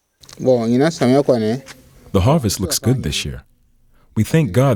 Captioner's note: speaking in foregin languate